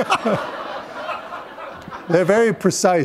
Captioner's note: laughter